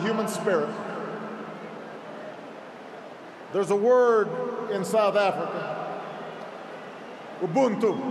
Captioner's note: applause